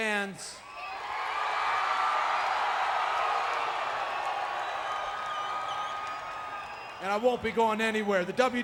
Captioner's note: applause